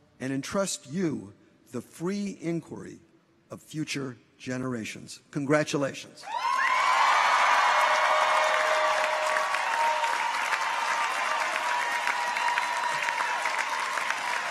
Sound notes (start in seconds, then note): 6.3 audience cheers; 6.4 audience applauds